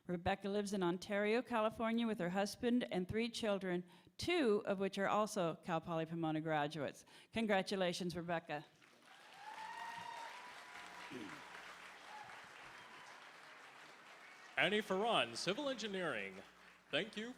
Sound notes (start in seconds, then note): 11.0 applause